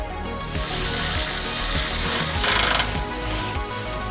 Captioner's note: tool whirring